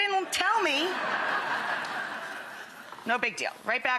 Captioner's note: audience laughing